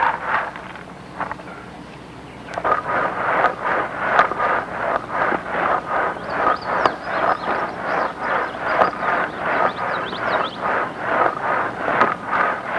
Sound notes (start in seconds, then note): 2.6 shaking sound